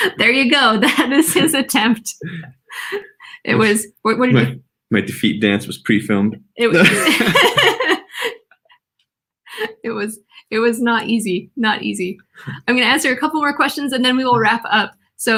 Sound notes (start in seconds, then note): 0.0 laughing; 6.7 laughing